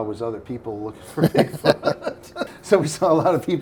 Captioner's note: laughing